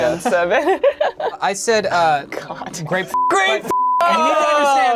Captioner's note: laughing; beep